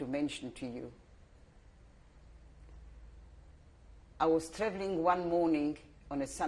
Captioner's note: pauses for 3 seconds